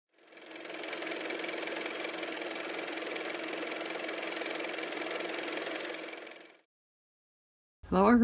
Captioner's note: car motor